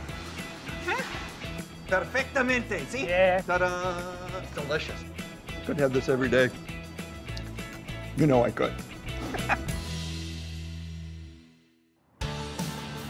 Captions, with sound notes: (speaking Spanish) Delicious. Could have this every day. You know I could. (upbeat music)